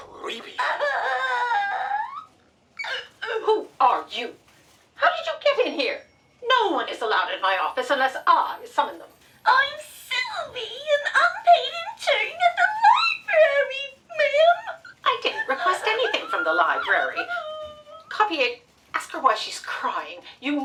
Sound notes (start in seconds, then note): 2.2 wailing